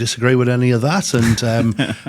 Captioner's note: hosts laugh